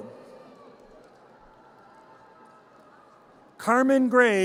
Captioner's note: audience cheers